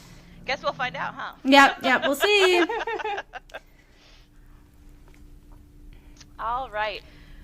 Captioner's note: laughter